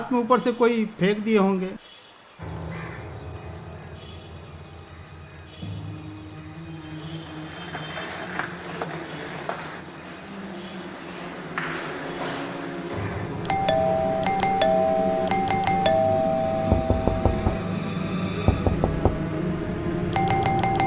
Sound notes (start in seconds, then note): 13.4 door bell; 16.8 door knockin